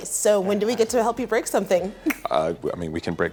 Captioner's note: laughs